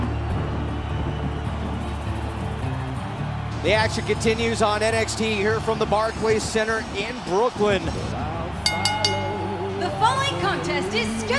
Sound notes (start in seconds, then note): 8.6 bell ringing